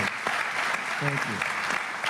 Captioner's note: applause